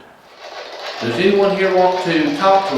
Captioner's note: white Noise